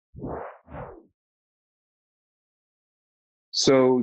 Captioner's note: whoosh